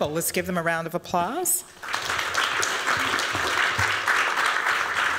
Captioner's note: applause